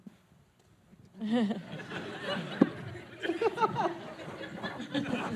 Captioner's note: laughing